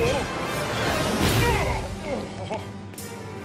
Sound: groaning

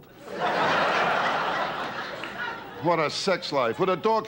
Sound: audience laughter

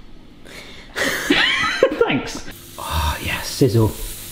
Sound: laughs

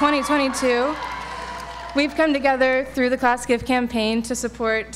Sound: applause

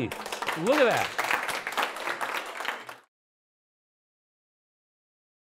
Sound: applause

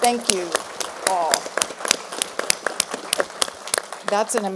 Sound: applause

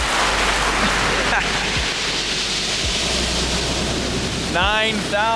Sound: peaceful music; laughing

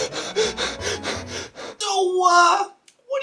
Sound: heavy breathing

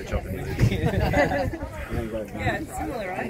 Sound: laughs

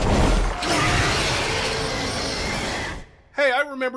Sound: zombie scream

